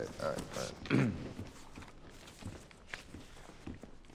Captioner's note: clearing throat